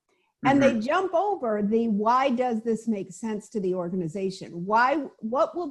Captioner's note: chuckling